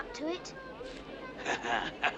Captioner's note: chuckling